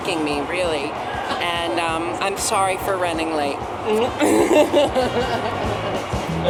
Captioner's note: laughs